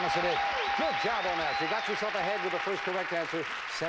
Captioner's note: audience applauding